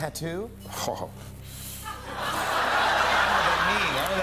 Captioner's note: laughter